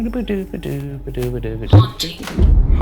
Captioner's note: hums